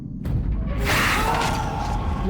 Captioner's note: moaning